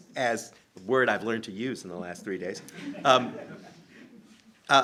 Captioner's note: laughter